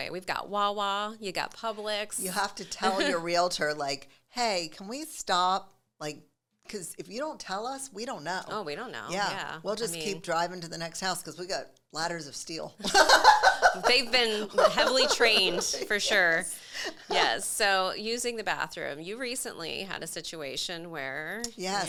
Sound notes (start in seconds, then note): 12.8 laughing